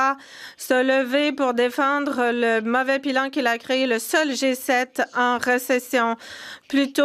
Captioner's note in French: voix de l'interprète